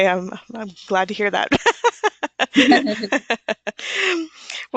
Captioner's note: laughter